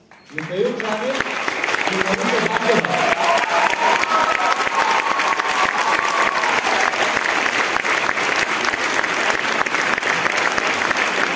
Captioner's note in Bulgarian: аплодисменти